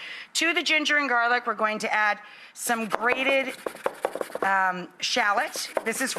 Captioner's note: none